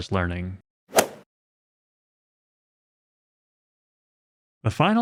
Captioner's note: golf swing sound effect